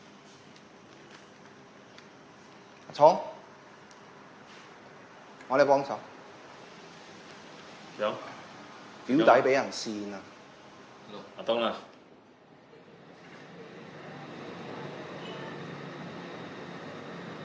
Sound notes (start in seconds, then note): none